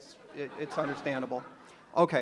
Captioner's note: audience laughs